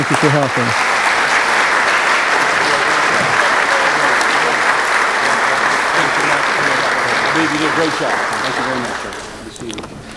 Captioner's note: applause